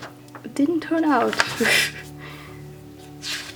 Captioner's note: laughs